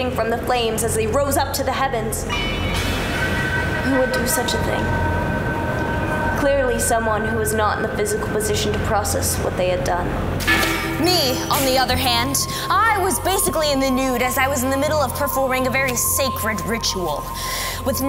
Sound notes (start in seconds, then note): 2.3 metal clanging; 10.4 bell clanging